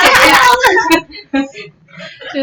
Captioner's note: laughter